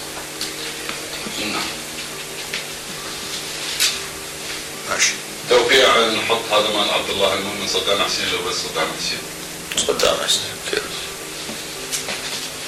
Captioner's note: background noise of individuals stirring sugar in tea cups